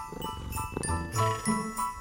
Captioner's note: purrrrr